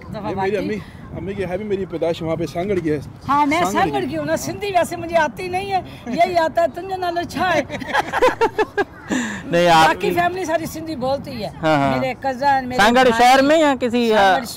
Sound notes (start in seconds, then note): 7.5 laugh